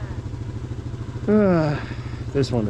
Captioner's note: sighs